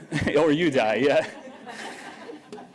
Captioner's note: laughter